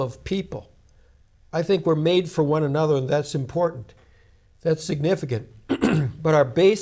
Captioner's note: clears throat